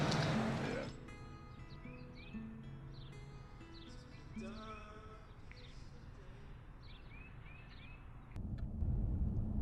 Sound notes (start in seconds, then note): 0.0 light music; 0.0 birds chirping